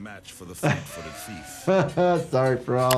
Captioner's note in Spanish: el anfitrión se ríe